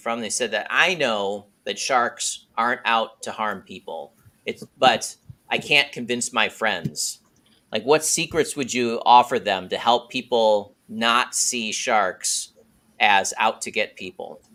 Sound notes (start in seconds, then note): none